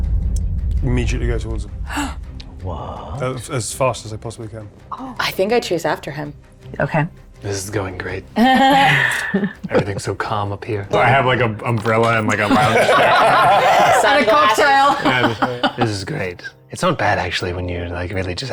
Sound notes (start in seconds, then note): 1.9 gasping; 8.5 players chuckling; 12.4 players laughing; 15.5 laughs